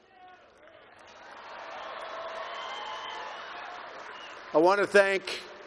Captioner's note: applause